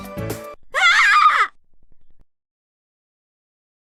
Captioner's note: intense scream